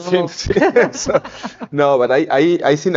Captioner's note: both chuckle